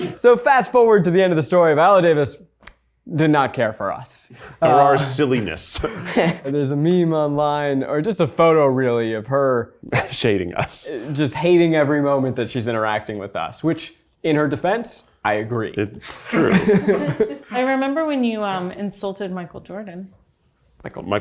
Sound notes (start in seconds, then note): 16.1 laughs; 16.1 people laugh